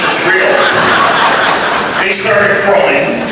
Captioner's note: laughter